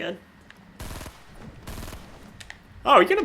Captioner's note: gunfire